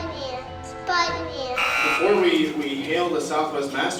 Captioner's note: buzzer